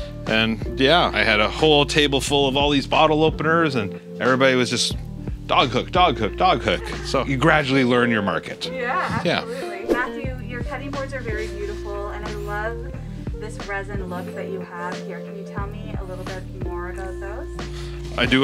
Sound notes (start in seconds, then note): 9.8 air whips